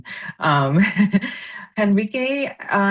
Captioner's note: laughs